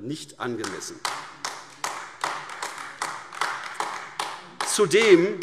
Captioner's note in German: Beifall AfD